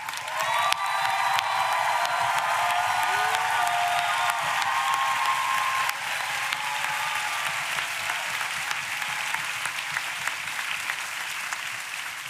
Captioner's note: applause